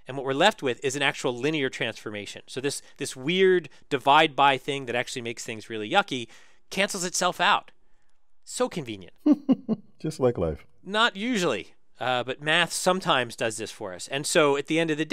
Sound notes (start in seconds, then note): 9.2 laugh